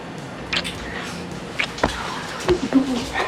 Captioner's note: kissing